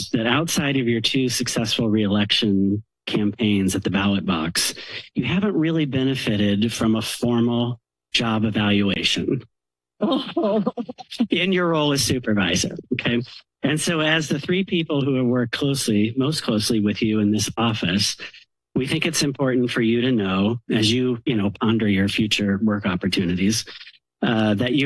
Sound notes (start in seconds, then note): 10.1 laughter